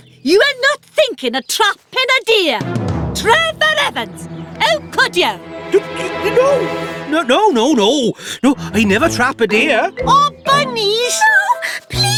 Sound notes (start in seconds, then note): 5.4 blustering